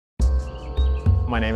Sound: birds chirping, echoing

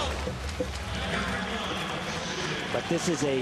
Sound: audience clapping

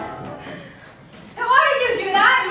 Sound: exhales sharply

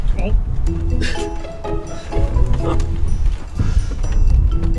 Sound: grunting and laughing

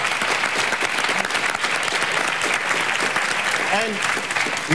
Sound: audience applause

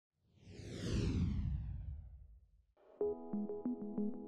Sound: logo whooshing; gentle music

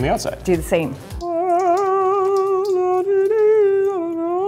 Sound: humming

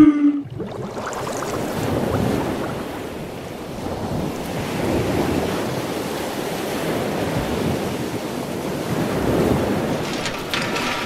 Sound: ocean Sound

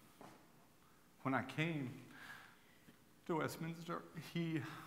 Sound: voice breaking

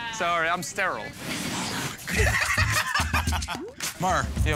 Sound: laughter

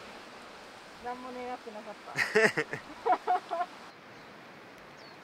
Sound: laughs

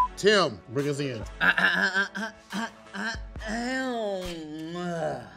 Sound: clearing throat

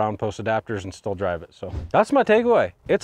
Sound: image whooshing

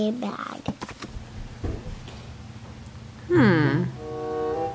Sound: footsteps

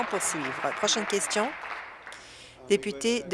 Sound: applause

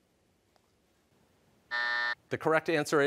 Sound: buzzer

